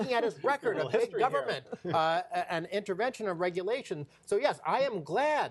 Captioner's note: laughter